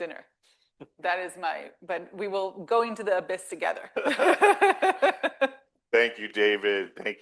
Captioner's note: laughs